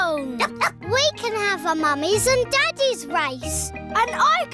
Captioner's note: barks